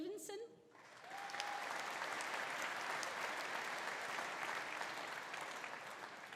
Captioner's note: audience applauding; audience cheering